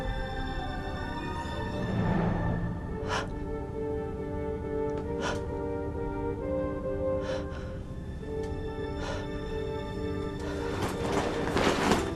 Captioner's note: heavy Breathing